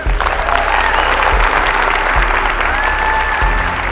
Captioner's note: audience applause